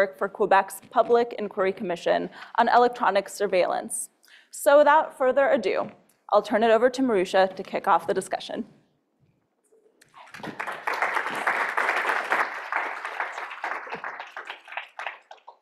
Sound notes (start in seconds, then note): 10.0 audience clapping